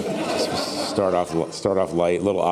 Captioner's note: laughing